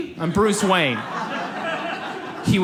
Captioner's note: audience laughs